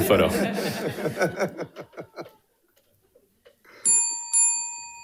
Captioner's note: audience and participants laughing; bell dinging